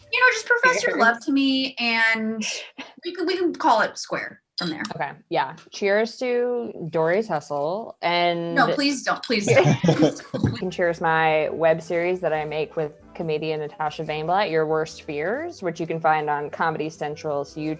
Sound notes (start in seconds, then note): 9.4 all laugh